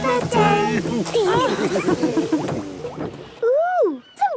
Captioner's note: laughter